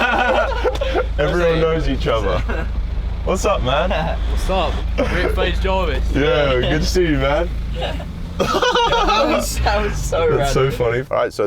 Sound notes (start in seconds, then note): 0.0 all laugh; 9.0 laughs